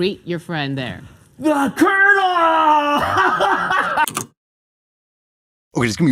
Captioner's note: gasp